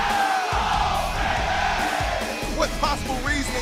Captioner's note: crowd cheering